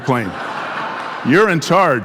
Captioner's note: audience laughing